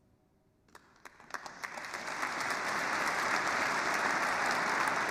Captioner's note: applause